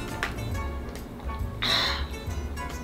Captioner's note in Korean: 마시는 소리